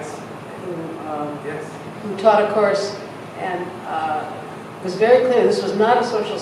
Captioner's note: voiceover